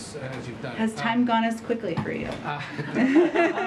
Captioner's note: laughter